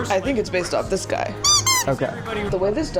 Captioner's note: squeaky toy